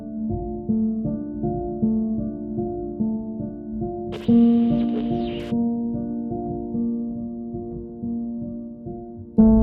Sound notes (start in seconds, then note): 0.1 haunting piano music; 4.0 static; 6.2 haunting piano music